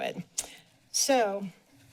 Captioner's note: tongue clicks